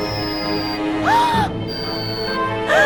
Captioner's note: gasps; gasp